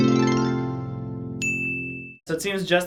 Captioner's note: enchanting harp music; bell dings